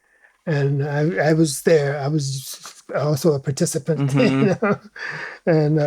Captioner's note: laughs